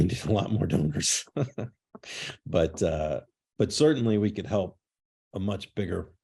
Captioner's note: laughter